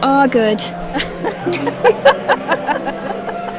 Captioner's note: laughter